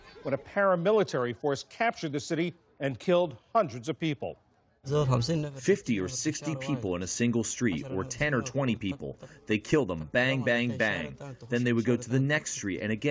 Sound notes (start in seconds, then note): 6.5 through translator